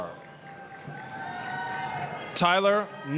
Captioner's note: applause, cheering